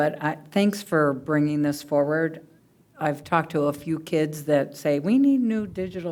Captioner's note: none